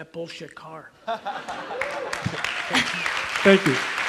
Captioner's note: audience laughs and applauds